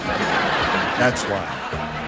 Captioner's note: laughter